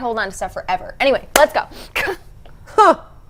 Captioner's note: clap